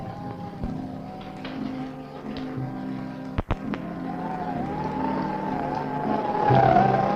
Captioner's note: pensive music; wind howling